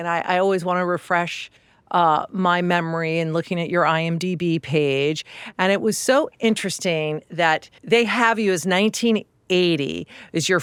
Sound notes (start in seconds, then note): none